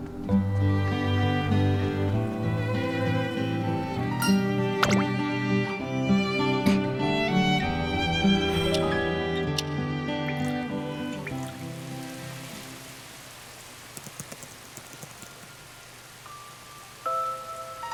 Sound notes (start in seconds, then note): 10.2 drip… drip…